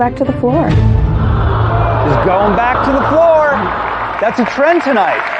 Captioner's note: audience sighs sadly